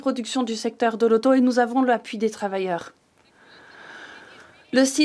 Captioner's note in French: voix de l'interprète